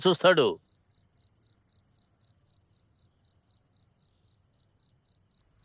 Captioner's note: crickets chirp